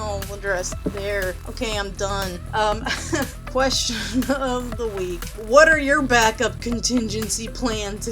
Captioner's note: laughs